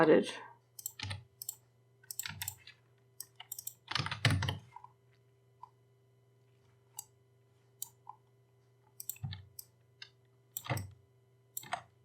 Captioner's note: typing